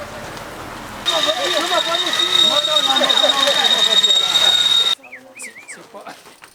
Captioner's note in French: cris indistincts